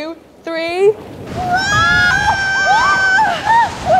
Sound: wind rushing

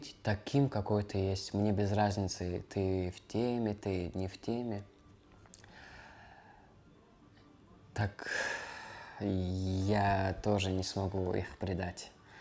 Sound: speaking russian

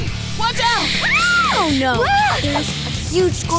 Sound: scream

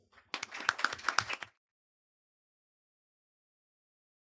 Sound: everyone clapping

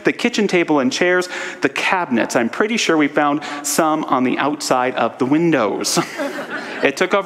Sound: audience laughter

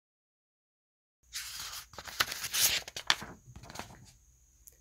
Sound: page turns

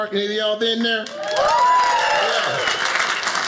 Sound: audience applauding

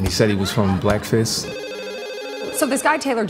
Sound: phone ringing

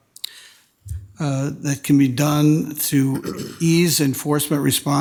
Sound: attendee clears throat

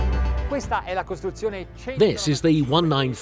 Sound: speaking in foreign language

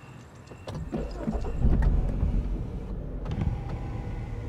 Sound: car starts up; electric whirring

